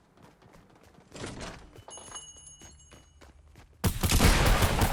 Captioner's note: door bell rings; gun explodes